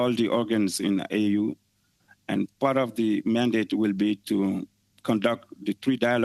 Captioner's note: speaking French